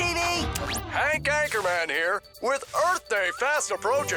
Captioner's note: slurps